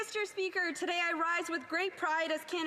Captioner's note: some Applause